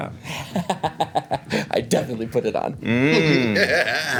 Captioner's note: laughs